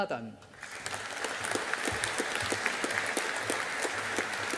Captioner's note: audience applauding